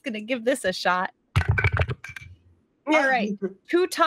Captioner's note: dice clank